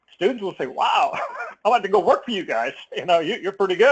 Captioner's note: laugh